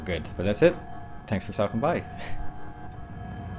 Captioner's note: laughs